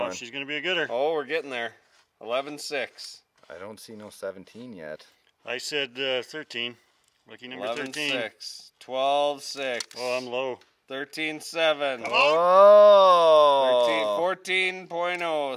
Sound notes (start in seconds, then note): none